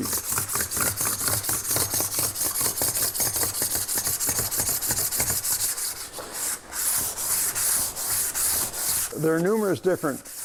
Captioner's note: metal and stone scraping